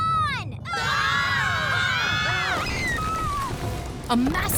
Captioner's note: everyone screaming